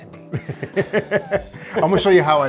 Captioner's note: laughing